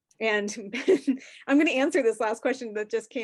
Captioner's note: chuckles